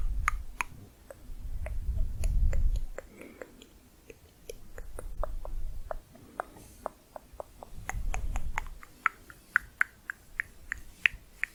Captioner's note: tongue clicking